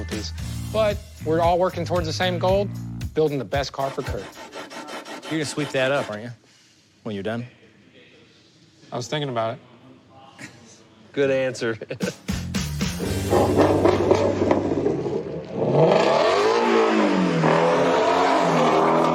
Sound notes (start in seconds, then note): 12.8 clanging; 15.4 enginene revs